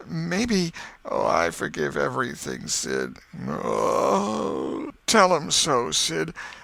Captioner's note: groan